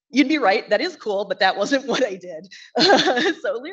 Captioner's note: laughs